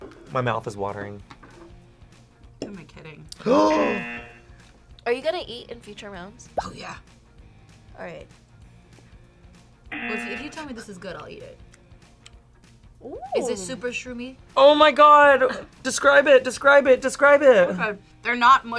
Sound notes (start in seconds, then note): 3.4 gasps; 3.8 buzzer; 9.9 buzzer